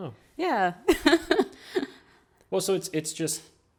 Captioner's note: laughs